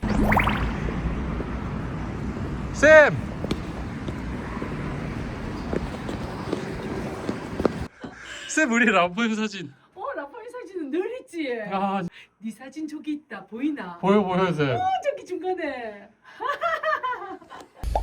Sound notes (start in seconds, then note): 5.9 hurried footsteps